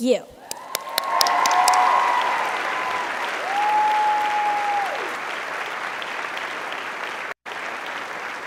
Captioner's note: applauding